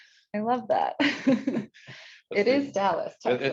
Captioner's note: participants laugh; chuckles